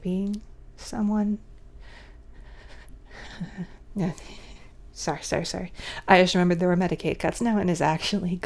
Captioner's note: laughing